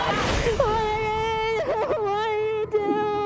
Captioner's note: crying